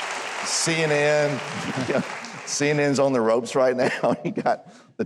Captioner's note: audience applauds; chuckles